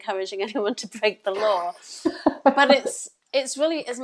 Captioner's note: laughs